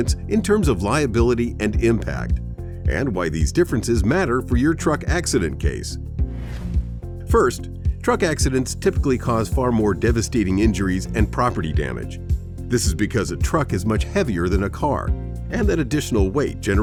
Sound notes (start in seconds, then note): 6.2 air whooshes